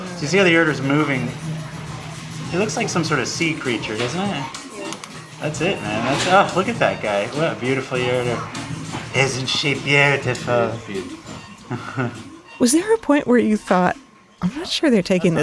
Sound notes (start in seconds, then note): 11.5 chuckles